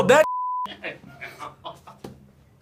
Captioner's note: laughs